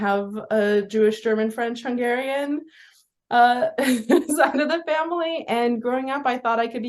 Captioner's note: laughs